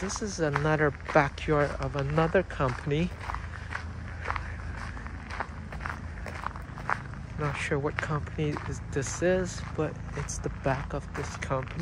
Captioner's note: walking on gravel